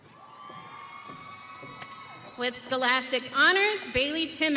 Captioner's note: audience cheering